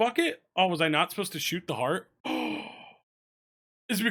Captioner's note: gasps